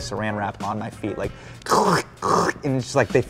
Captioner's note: crunching sounds